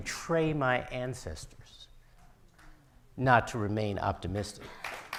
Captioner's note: audience applauding